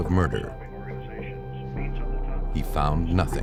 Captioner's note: news playing on tv